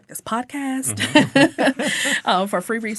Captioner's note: all laughing